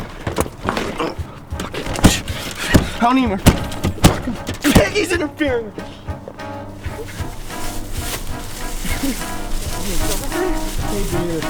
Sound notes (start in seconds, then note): 0.6 Castillo grunts; 1.5 door slams over and over